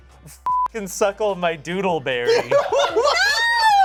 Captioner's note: beep; cast laughs